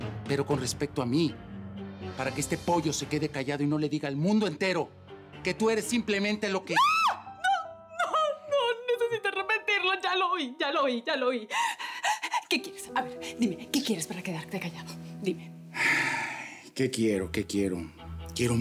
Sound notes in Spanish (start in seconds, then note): 11.3 Sollozos; 15.7 Suspiros